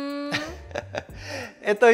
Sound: laughs

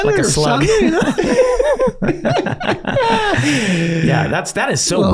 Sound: all laughing

